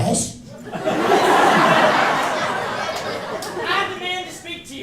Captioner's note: laughter